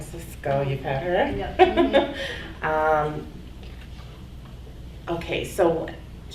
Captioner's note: laughing